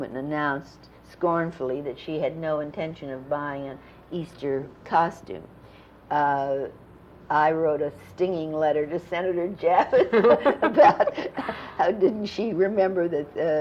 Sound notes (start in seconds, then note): 9.8 laughter